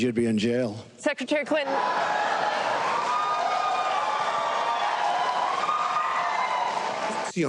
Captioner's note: applause